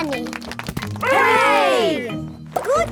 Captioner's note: crowd applauding